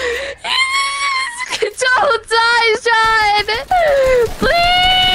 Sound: scream

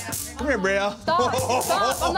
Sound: laughing

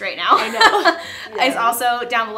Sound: laughter

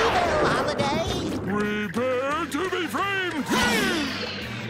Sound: grunting

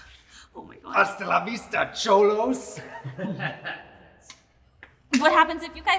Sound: men laughing

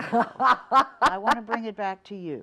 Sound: laughs

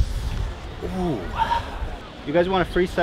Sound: sighs

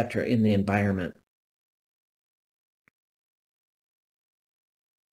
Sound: A pause

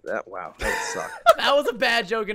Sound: laughs

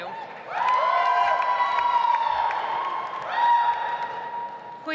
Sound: audience applauds

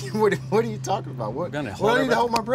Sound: laughs

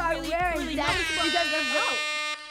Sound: air horn

